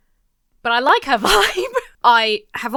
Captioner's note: laughs